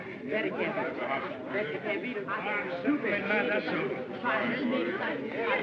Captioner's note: chatter